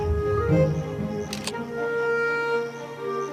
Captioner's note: camera clicks